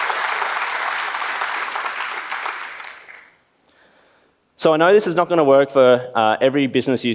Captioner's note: claps